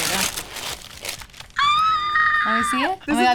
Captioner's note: squealing